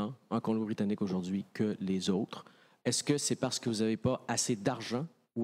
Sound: speaking FRENCH

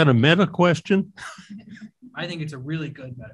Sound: chuckles

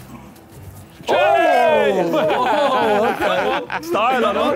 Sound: cheering

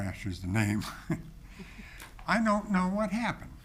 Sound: people chuckling

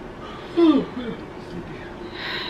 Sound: yawning

